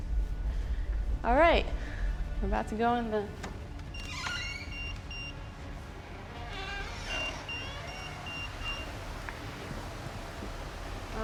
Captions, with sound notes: All right, I'm about to go in the... [EMF beeping] [fan moving]